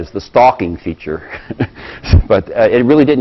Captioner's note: laugh